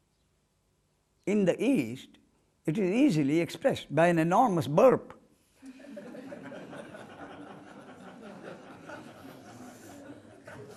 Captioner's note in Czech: smích